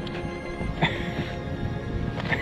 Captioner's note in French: rires